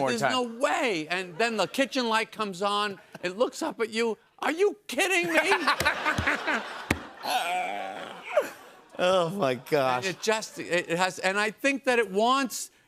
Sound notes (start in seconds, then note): 5.2 laughter